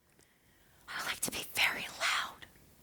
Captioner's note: whispering